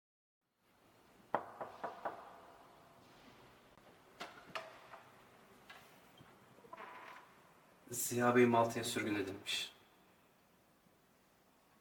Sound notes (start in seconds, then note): 1.3 knocks